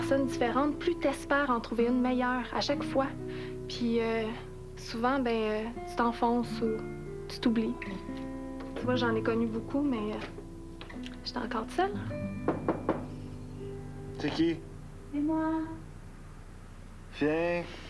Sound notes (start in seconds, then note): 12.4 On frappe à la porte